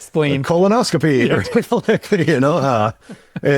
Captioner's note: participants laughing